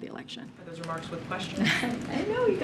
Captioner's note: laughs